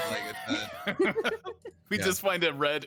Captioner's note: group laughing